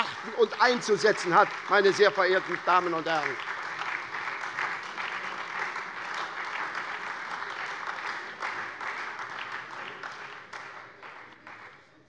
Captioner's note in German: Beifall SPD, Freie Demokraten und DIE LINKE